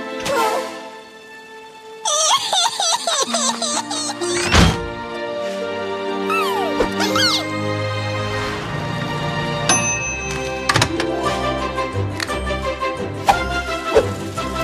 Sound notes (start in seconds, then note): 2.0 sobbing; 9.7 ding!